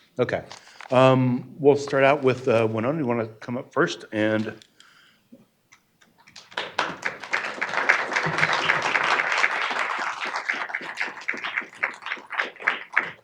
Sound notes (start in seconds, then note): 7.9 audience clapping